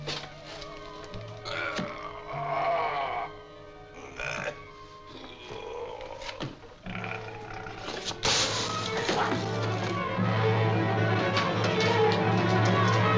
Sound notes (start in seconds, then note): 0.5 groaning; 8.0 sparks crackling; 10.3 dramatic music